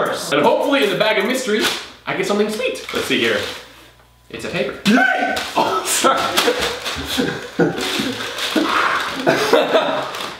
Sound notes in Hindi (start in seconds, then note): 3.2 बैग rustling; 5.5 हंसते हुए; 6.3 गहरी साँस लेना